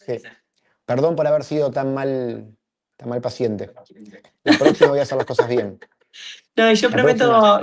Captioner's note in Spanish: risas